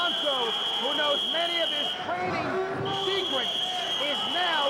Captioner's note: whistling; whistling